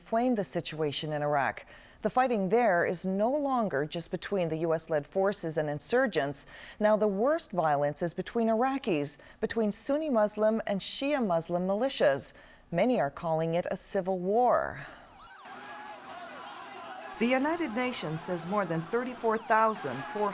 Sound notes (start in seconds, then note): 15.1 siren; 15.7 shouting